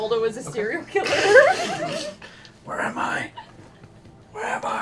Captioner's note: creepy voice